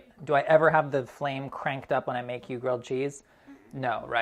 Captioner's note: none